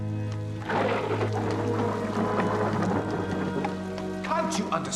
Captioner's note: petir menggelegar